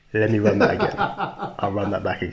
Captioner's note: laughs